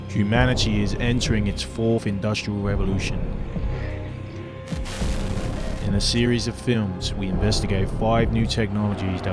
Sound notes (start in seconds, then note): 4.6 crackling